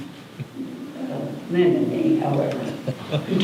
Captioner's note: laughter